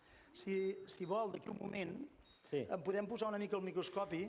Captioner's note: non-english speech